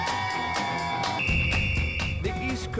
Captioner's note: group cheering; whistle tweeting